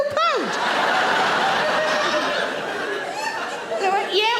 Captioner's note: audience laughing